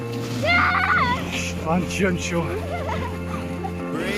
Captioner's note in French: rire